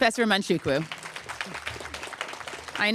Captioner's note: applause